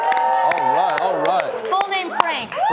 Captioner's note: audience Clapping